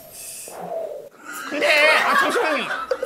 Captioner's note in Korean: ㅎㅎㅎㅎㅎㅎㅎㅎㅎㅎㅎ